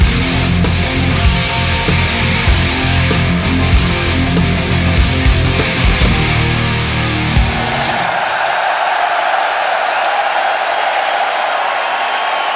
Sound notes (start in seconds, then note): 3.6 energetic rock music; 7.6 crowd cheering